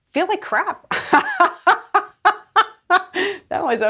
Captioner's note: laughs